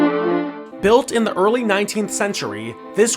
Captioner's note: voiceover